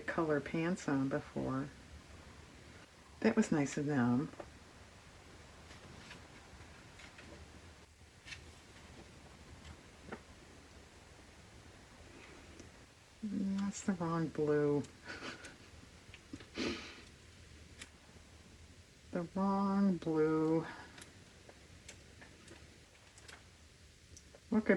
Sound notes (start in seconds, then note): 17.7 laughs